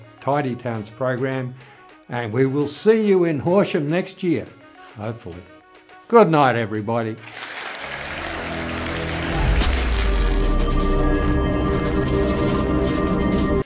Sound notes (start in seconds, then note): 7.2 audience applauds; 8.8 air buzzing